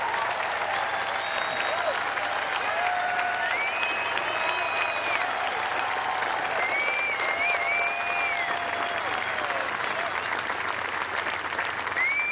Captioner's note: cheers and applause